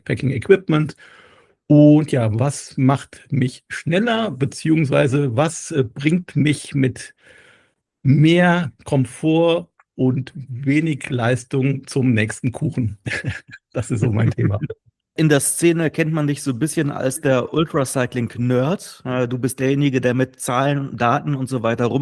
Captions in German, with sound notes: Packing Equipment und ja, was macht mich schneller bzw. Was bringt mich mit mehr Komfort und wenig Leistung zum nächsten Kuchen? [gelächter] Das ist so mein Thema. In der Szene kennt man dich so bisschen als der Ultra Cycling Nerd. Du bist derjenige, der mit Zahlen, Daten und so weiter